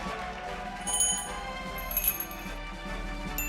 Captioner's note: cheers and applause; bells jingling